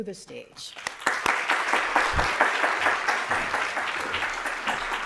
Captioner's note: applause